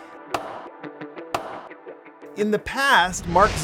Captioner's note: gavel tapping